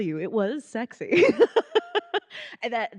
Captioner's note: laughing